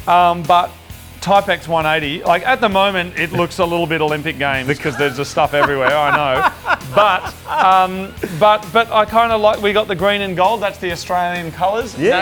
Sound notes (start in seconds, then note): 4.8 laughing